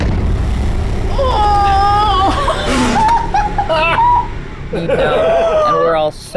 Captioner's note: intense orchestra music; group exclaims and laughs